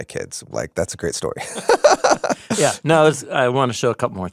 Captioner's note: laughs